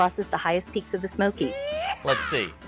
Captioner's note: yeehaw yell